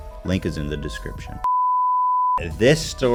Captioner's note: beep